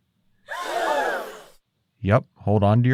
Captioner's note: audience gasps